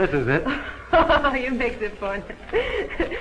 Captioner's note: laughs